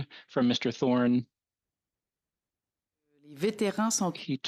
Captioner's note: speaking French